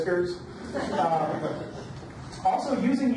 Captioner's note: audience laughs